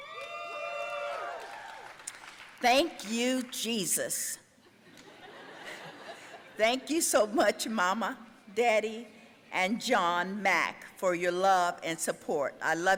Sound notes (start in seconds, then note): 0.0 audience cheering; 4.9 laughing